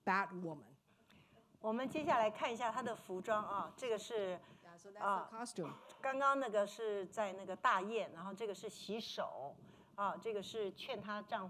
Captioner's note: speaking Mandarin